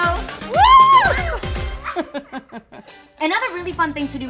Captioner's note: laughs